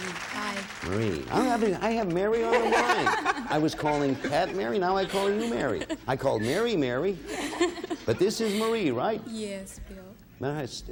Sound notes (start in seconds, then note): 2.4 all laughing